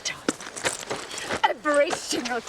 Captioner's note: rocks crack